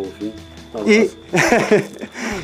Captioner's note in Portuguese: Risadas